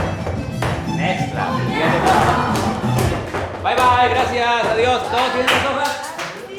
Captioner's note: speaking in foreign language